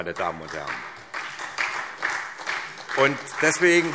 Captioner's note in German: Beifall SPD